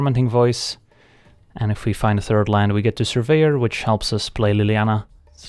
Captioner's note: skittering